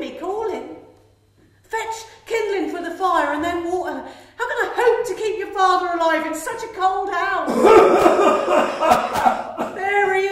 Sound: coughing continues

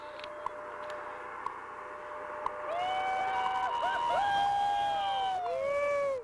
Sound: cheering

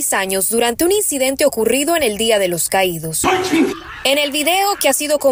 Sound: gritos

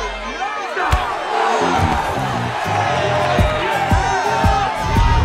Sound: men groan; crowd gasps

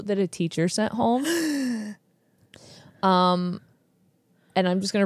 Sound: gasps

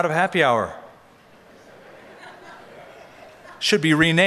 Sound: laughter

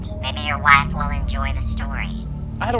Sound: phone distorted voice

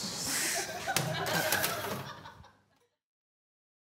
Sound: laughing

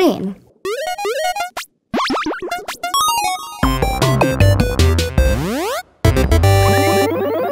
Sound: videogame sounds

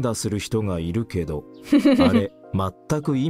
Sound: chuckles

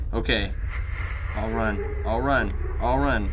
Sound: ghostly laughter

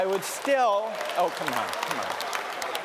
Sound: applause

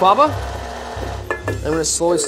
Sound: mixer running

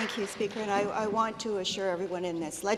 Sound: some Applause

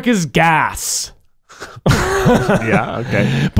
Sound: laughing

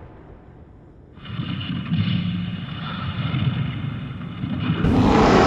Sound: Yeti Growling; Yeti Roar

